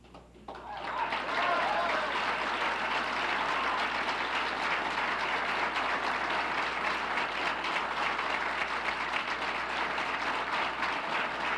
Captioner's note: applauses